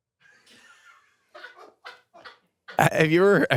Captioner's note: crew member laughs